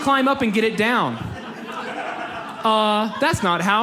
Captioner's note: audience laughs